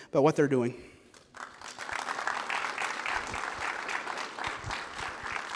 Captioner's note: applause